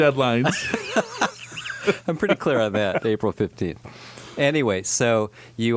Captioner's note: laughs